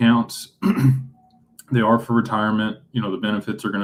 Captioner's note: clears throat